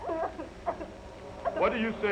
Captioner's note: Mary Lou crying